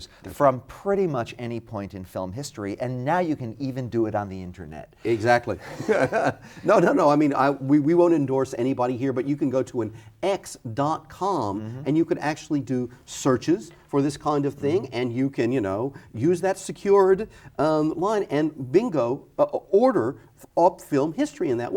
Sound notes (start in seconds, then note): 5.1 laughs